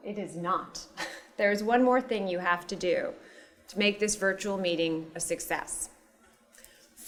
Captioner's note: laugh